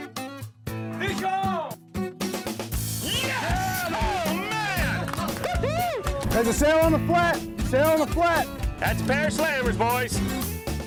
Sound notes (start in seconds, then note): 3.0 cheering